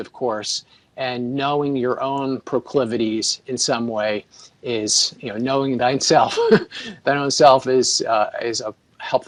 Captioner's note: laughs